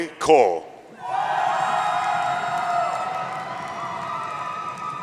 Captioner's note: audience cheering